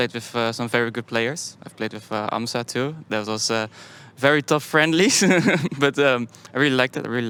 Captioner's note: laughs